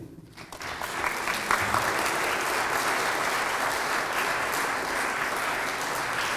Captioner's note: applause